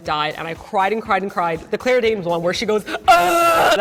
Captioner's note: sobbing